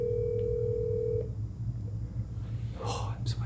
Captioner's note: phone dialing